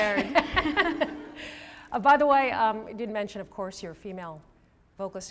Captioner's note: laughing